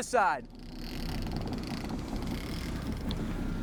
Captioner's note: line pulls